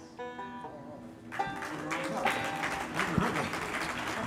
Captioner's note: instruments tuning; audience applauding